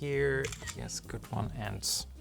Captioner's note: camera shutters